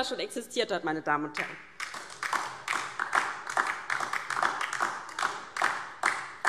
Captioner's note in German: Beifall DIE LINKE